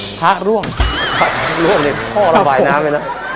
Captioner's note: laughing